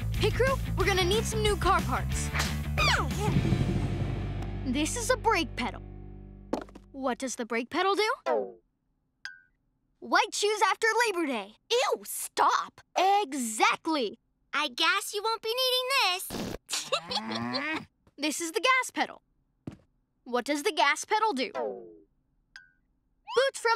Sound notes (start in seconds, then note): 2.8 squeals; 16.2 imitated flatulence; 16.7 giggles; 17.0 growls